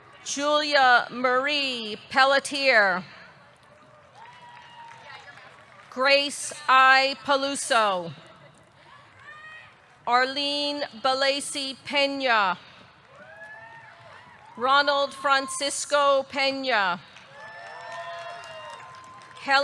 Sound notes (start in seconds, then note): 3.4 audience clapping; 4.1 audience cheering; 13.0 audience clapping; 13.1 audience cheering; 17.1 audience clapping; 17.3 audience cheering